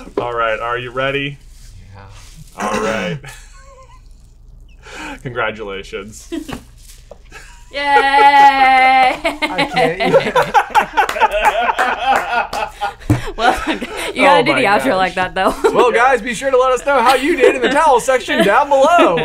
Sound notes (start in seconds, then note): 2.5 laughs; 10.9 all laughing